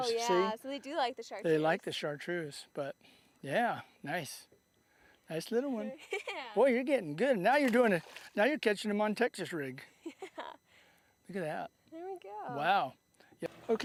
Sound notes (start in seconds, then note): 10.0 laughter